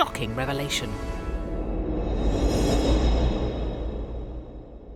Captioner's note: air whooshing